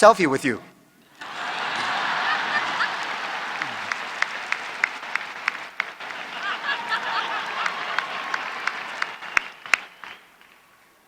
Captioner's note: cheers and Applause